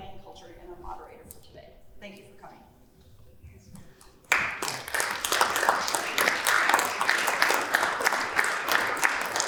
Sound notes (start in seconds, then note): 4.2 applause